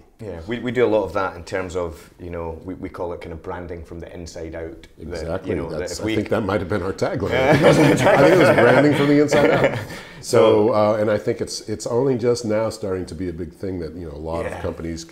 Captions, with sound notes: - Yeah We do a lot of that in terms of we call it kind of branding from the inside out. - Exactly I think that might have been our tag line. (laughing) I was branding from the inside out So, and I think it's only just now starting to be a big thing that a lot of companies